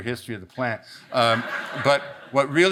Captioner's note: audience laughs